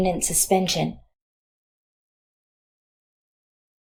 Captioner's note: silence